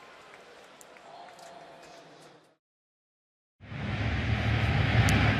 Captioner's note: pa announcement